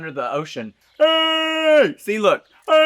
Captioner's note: Trinity The Tuck vocalises